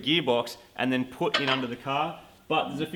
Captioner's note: clang